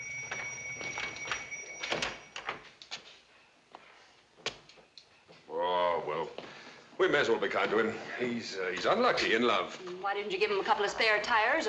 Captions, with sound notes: (RINGING STOPS) Aw, well, we may as well be kind to him. He's unlucky in love. Then why didn't you give him a couple of spare tires,